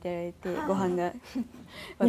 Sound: laughs

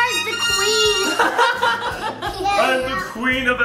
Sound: all laugh

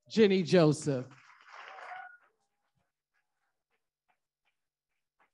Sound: audience applauding

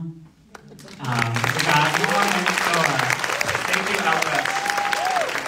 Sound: audience applauding

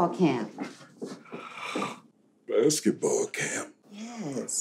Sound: yawning

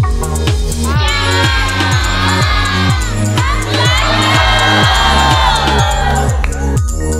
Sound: upbeat electronic music; cheering; foreign language

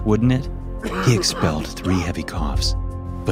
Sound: man coughing

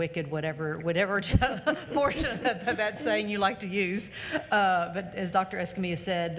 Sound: laughs

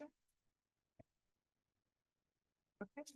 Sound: pause

